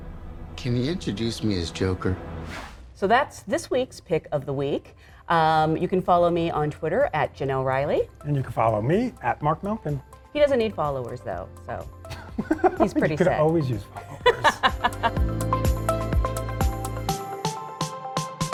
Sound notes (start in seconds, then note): 12.1 laughs; 15.9 upbeat music